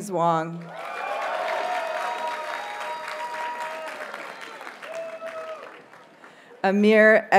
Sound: audience cheers and applauds

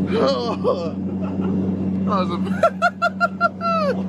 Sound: team mumbling

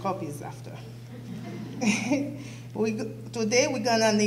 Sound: laughs

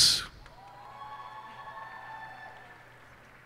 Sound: cheers and applause

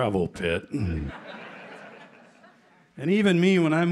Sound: laughter

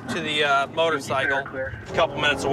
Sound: police radio

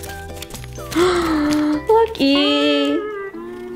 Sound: gasps

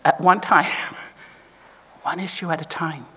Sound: chuckles

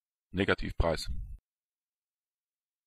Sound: fast Pronunciation

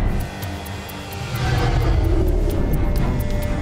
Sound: plane passing

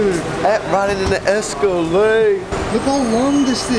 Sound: mumbles

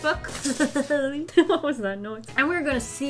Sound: laughs

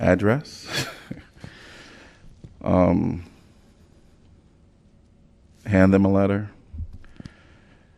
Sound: laughter

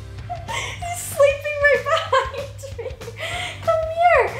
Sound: laughs

